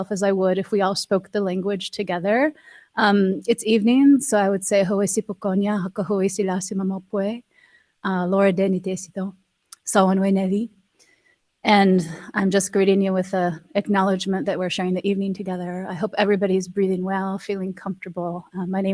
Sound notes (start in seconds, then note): 4.9 speaking Shawnee